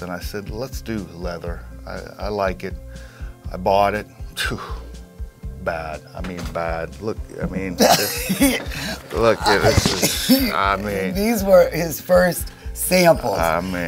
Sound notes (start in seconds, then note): 4.6 sighs; 7.7 laughs